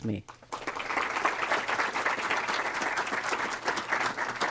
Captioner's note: applause